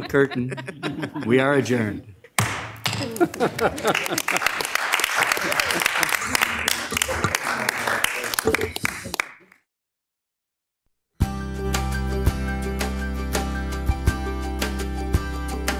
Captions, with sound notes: curtain. We are adjourned. (thudding sound) (audience applauding) (upbeat music)